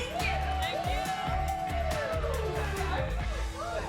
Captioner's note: cheering